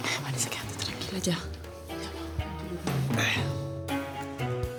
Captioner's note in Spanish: Susurra